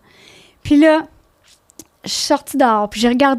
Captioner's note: in french